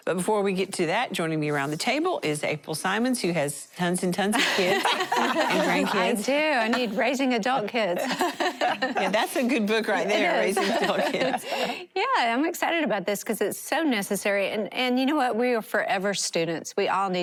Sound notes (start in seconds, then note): 4.3 laughter; 7.9 laughter